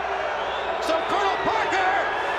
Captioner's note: crowd cheering